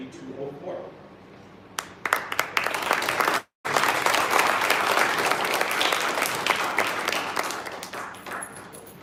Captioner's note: applause